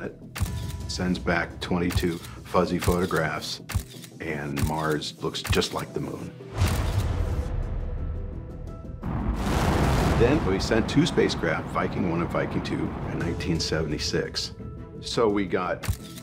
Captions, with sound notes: sends back 22 fuzzy photographs, and Mars looks just like the Moon. [rocket launching] Then we sent two spacecraft-- Viking 1 and Viking 2-- in 1976, so we got tens of thousands